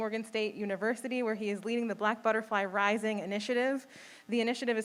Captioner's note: none